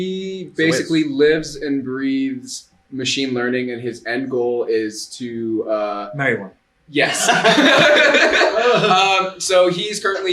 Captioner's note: laughter